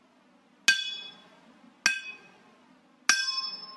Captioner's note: hammering